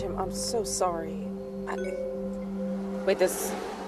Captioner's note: notification sound